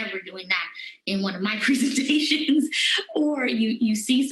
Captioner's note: laughter